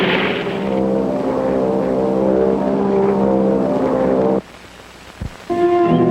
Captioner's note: airplane engine whirring